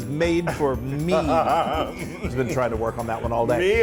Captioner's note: laugh